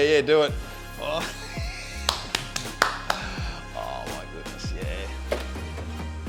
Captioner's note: claps